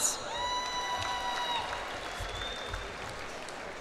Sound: cheers and applause

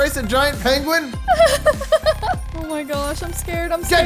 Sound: giggling

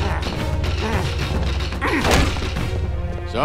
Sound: grunting

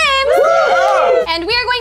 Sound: group cheers

